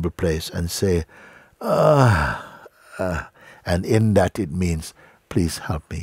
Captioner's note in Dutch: kreunt